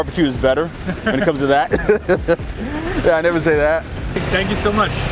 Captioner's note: laughing